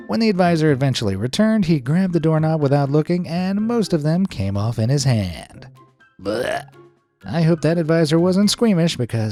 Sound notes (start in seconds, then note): 6.3 retches